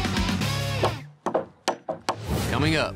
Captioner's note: hammering